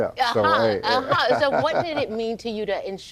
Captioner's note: laughing